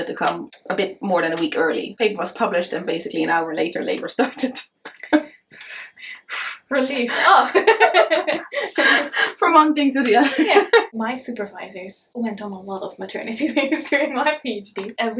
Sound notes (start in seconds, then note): 4.2 chuckles; 5.2 exhales; 6.8 both laugh